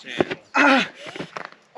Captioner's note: man moans in pain